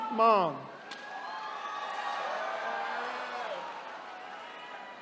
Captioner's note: attendees cheering